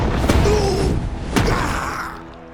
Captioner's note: groaning